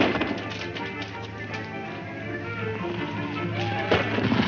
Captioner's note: chanting; upbeat music